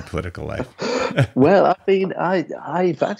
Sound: laughing

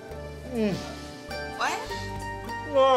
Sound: sighs appreciatively

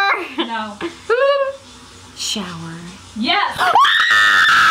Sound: screams; trills

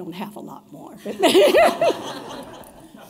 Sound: laughter

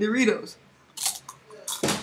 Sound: Eating Doritos

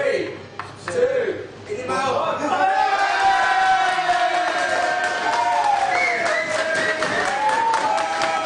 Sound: crowd yelling and cheering

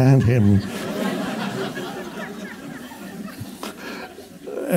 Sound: audience laughs

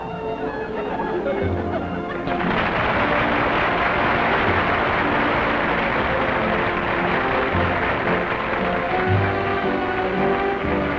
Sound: laughter, then applause

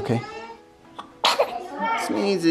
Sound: sneezes

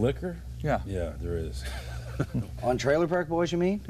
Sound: laughter

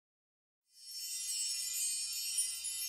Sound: chimes sparkling

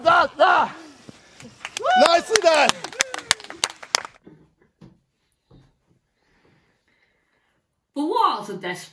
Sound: clapping

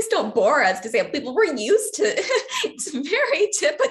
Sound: laughs

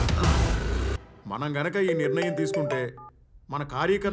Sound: phone rings

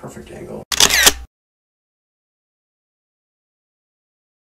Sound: camera shutters

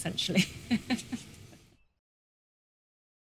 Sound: laughs

